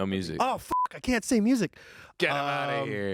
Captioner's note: beep